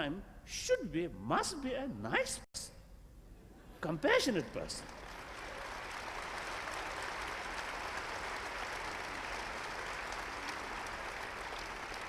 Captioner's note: applause